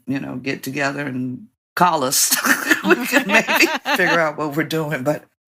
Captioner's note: laughter